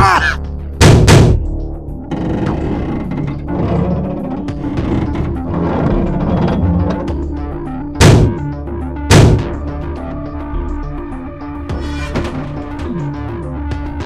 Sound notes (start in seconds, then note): 3.3 metal noises; 11.7 door opens